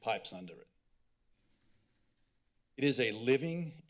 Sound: pause

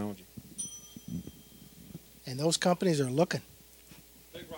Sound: bell dinging

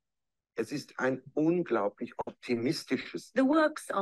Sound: speaking german

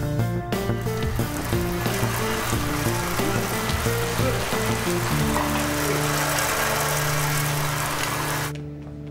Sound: water sound

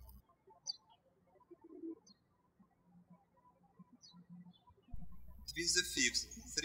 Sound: birds chirping

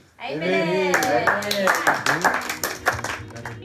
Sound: claps

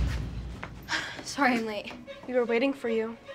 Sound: sighs

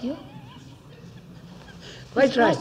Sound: laughs

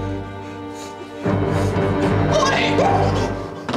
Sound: yelps

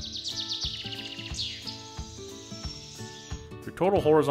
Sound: birds chirping

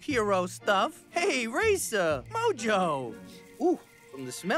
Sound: sniffs

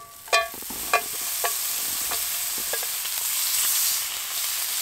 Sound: bacon sizzling

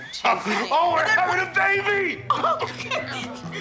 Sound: laughs

